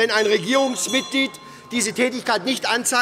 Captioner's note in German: Unruhe – Glockenzeichen des Präsidenten